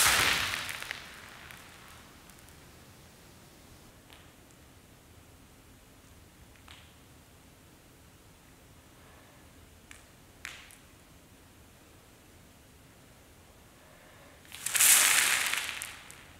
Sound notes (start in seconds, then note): 2.3 silence – environmental sound